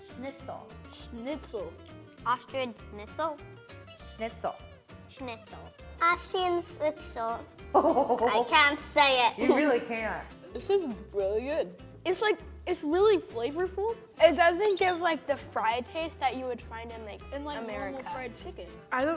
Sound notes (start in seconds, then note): 7.7 host laughs